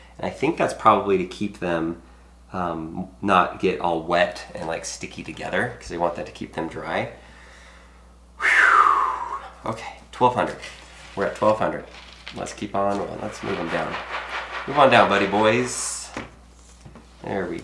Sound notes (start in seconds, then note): 7.2 exhales sharply